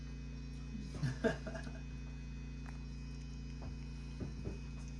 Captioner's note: laughs